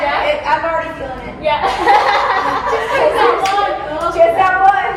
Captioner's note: laughs